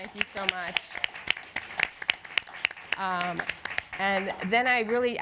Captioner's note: applause